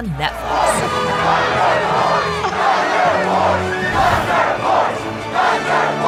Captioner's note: crowd